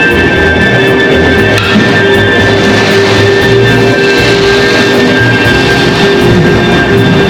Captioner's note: Carnival electric motor sound